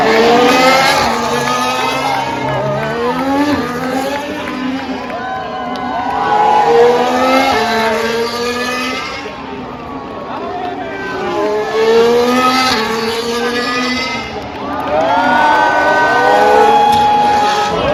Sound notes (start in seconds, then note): 14.3 applause